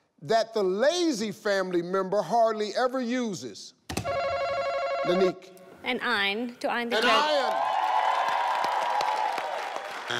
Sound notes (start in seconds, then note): 4.0 buzzer rings; 7.0 audience clapping